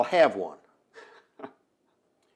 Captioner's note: laughs